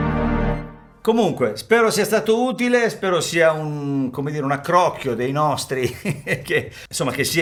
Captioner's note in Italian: risate